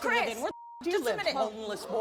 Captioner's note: beep